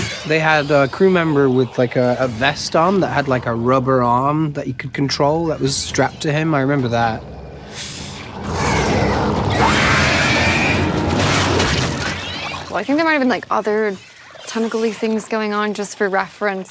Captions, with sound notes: - They had a crew member with like, a vest on that had like, a rubber arm that you could control that was strapped to him. I remember that. (creature growls) (flesh squelches) - Well, I think there might have been like, other tentacle-y things going on just for reference,